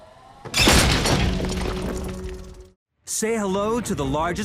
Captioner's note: metal clanking; upbeat music